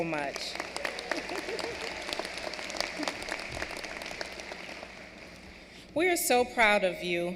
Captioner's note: applause